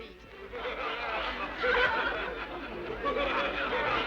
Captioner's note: guests laughing